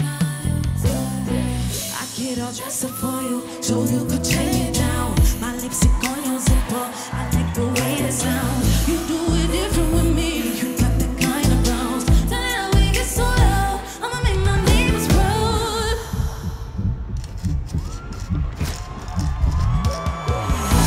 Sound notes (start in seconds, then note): 16.1 heartbeat thumping; 17.7 crowd cheering